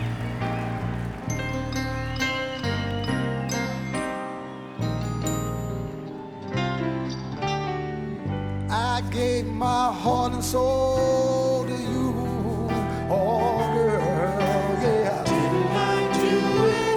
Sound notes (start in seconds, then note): 6.6 applause; 12.9 singing